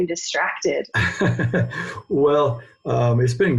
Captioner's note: chuckles